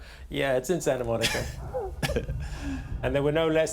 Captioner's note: chuckles